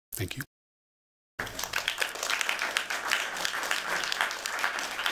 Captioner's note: applause